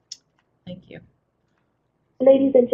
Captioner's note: voiceover